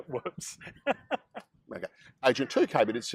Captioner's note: laughs